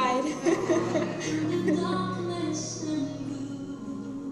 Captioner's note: laughter